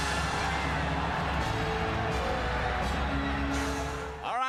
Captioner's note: crowd cheers